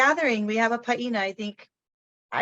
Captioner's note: speaks in foreign language